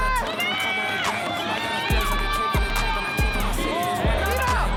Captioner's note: members are cheering for them